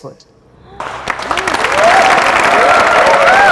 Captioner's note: Clapping